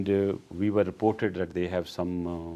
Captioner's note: none